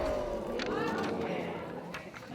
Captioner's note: audience murmuring